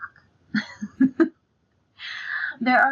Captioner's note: laughs